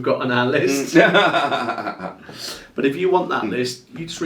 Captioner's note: laughing